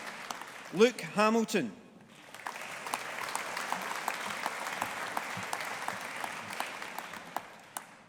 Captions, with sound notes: Luke Hamilton. (AUDIENCE APPLAUDING)